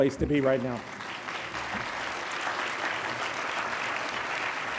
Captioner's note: graduates clapping